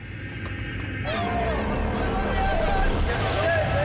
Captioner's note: men shouting